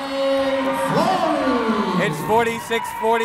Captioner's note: cheering